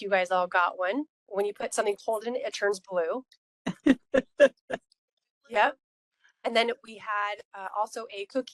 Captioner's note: laughing